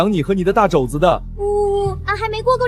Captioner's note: sobbing